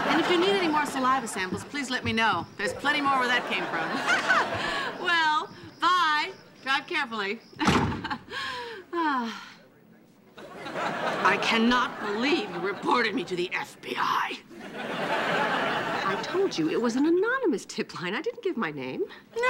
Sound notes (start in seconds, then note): 2.6 laughing; 10.4 laughing; 14.5 audience laughing